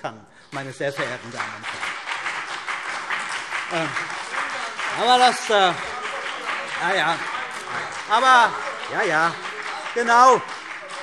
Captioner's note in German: Beifall CDU, BÜNDNIS 90/DIE GRÜNEN und vereinzelt SPD - Zurufe AfD